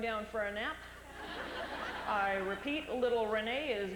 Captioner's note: laughter